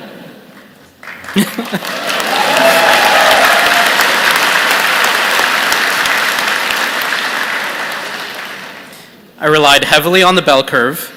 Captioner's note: cheers and Applause